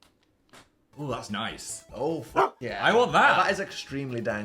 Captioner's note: bark